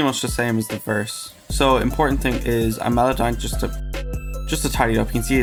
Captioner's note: autotune